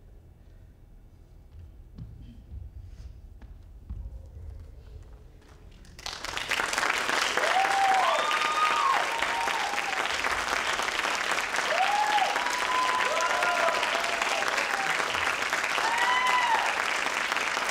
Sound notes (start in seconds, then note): 6.4 crowd applauds; 6.4 crowd cheers